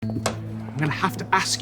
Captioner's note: door opens